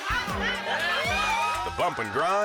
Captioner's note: crowd cheers; suspenseful music